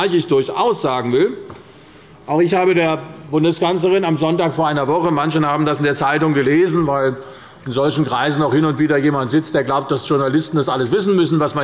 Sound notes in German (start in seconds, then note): none